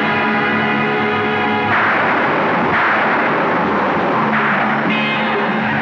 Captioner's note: Thunder Rumbling